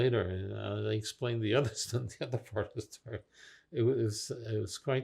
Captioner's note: laughing